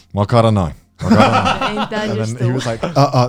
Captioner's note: speaks Japanese